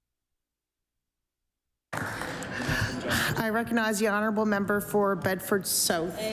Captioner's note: applause